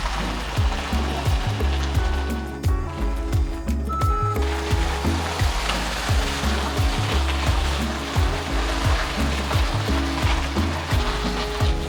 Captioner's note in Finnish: Aplodeja